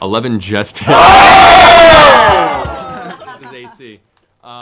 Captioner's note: cheering